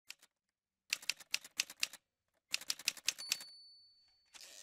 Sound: typewriter sounds

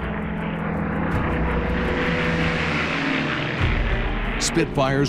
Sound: airplane engines roar

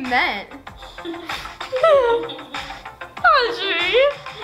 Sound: laughs

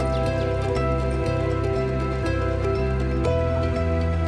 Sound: birds chirping

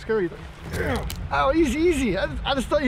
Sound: bones crunching

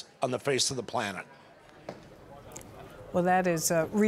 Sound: people chattering

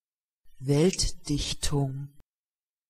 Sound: fast Pronunciation

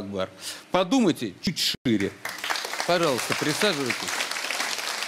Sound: applause

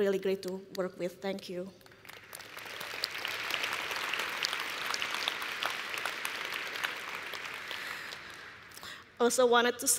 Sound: applause

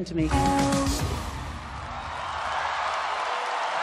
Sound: applause

